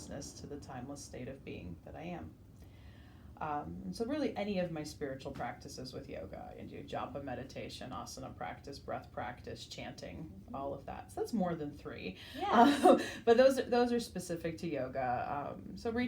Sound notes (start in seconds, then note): 12.4 laughs